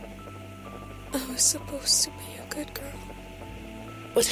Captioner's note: static; VANESSA, faintly